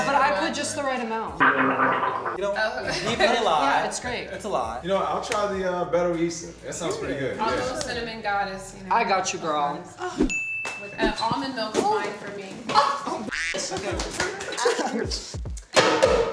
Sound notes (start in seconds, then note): 1.5 man gargles